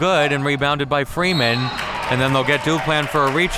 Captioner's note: whistle blows